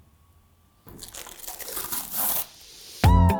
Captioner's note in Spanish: Sonido de plástico; Música animada